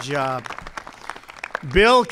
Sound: applause

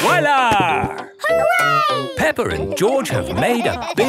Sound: laughing

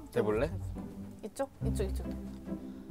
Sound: heart beating

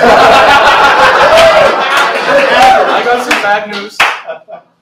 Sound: laughter

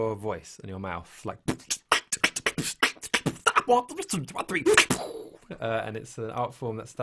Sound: beatboxes

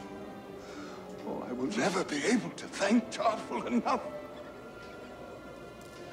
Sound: takes breath

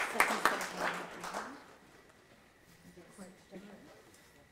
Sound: audience mumbling

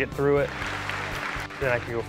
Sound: applause

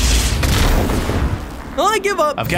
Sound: explosion booms

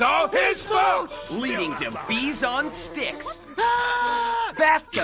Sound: screams

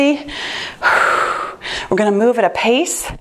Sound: exhales

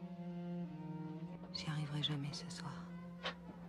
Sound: spoken word in foreign language

